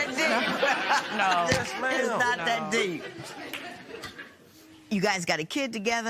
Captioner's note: laughter